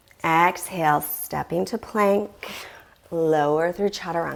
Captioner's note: deep breathing sounds